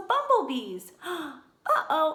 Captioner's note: gasp